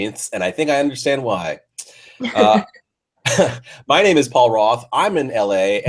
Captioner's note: chuckles